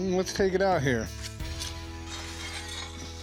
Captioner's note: clanks